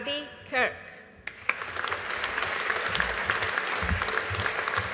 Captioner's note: audience applauding